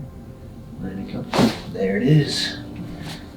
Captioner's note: bones crackling